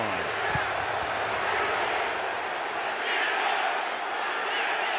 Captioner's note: crowd chanting